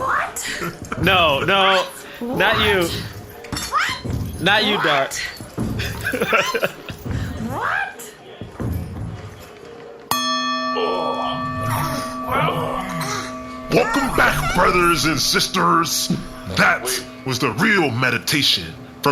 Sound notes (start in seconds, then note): 13.7 bell rings, the wrestlers stir back to consciousness